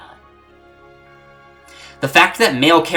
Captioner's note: breathe